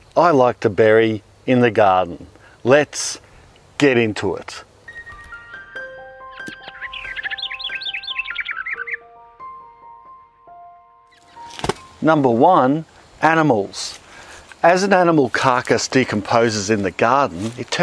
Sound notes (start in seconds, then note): 4.8 gentle music; 4.9 bird chirping